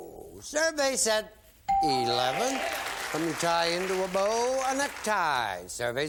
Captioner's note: bell; applause